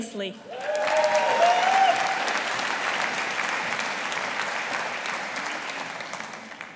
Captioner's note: audience applauding